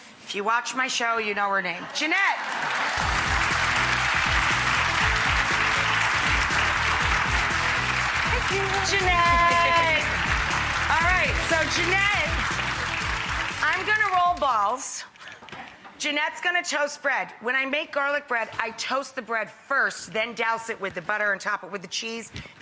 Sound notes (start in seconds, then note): 2.4 audience applauds; 2.4 upbeat music